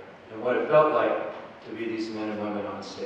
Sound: none

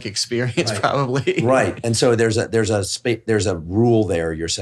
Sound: laughs

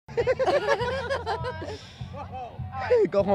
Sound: both laughing

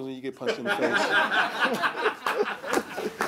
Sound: laughing

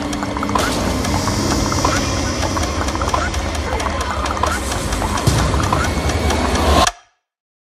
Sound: clucking; rapid clicking and clucking

